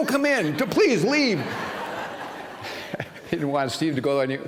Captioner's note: laughter